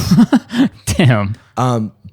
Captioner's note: laughs